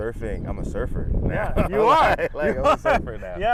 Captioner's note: laughs